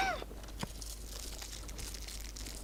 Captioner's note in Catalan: Soroll de papers